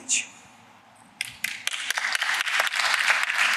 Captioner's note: applause